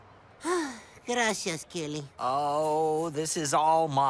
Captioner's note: sighs